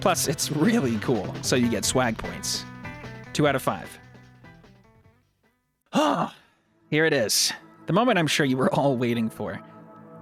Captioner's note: sigh